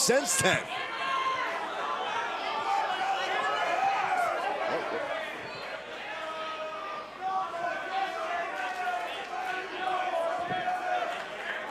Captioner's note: crowd chatter